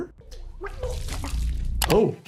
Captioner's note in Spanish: Elisabeth tiene arcadas